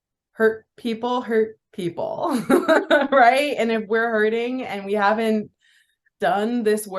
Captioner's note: laughs